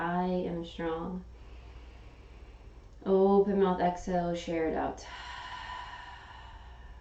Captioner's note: inhaling; exhaling